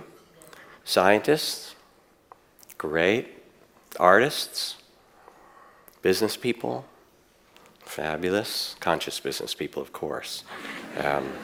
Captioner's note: audience laughs